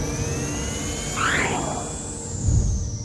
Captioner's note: swoosh